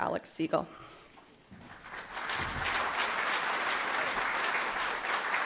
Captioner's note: applause